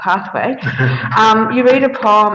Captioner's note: all laughing